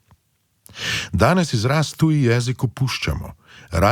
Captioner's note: foreign language